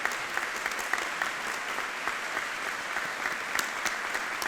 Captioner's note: audience applauding